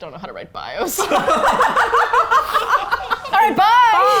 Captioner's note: all laugh